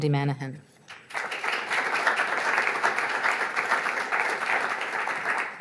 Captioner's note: audience applauds